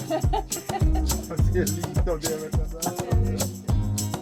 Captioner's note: laughter